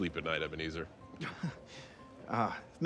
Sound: Dean chuckles nervously

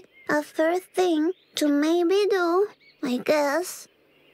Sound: none

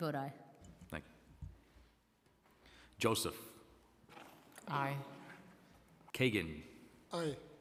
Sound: silence

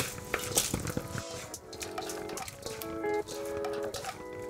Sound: salad sloshing

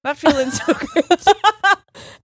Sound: both laughing

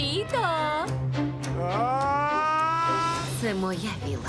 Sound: screams

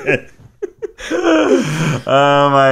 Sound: laughing

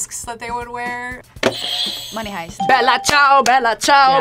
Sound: bell rings

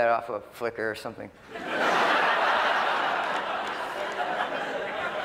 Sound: laughter

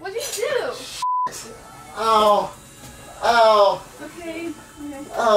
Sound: beeps

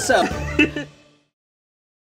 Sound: both laugh

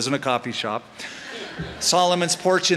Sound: laughter

